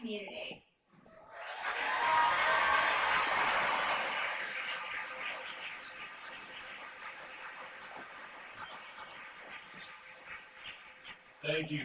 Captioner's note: cheers and applause